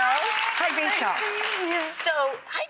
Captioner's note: applause